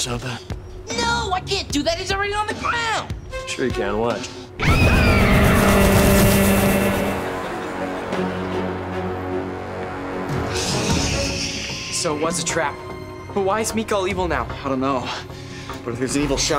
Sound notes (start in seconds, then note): 4.6 screaming